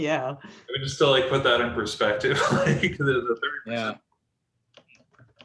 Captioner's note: laughs